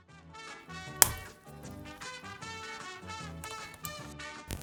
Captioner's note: clicking